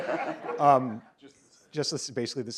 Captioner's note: audience laughs